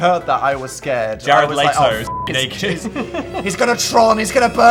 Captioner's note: beep